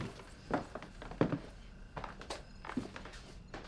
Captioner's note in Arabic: خطوات تبتعد